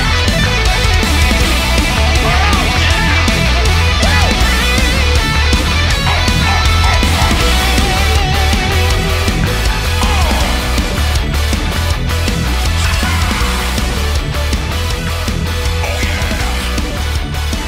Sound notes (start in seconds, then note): 0.1 sick Guitar Solo; 6.0 Donkey Kong Noises